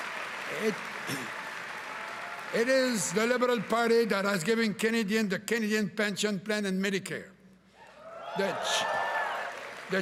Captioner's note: cheering and applause